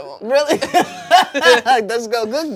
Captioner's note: everyone laughs